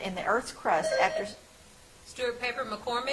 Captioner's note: bell ringing